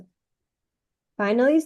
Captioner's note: silence